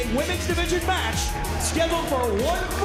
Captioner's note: bell ringing